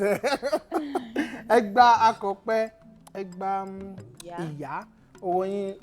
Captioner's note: laughs